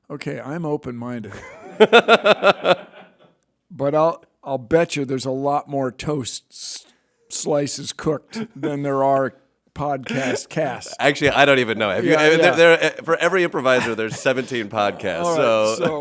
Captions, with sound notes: - Okay, I'm open-minded. (laughs) But I'll I'll bet you there's a lot more toast slices cooked than there are podcast cast. - Actually, I don't even know. For every improviser there's 17 podcasts so.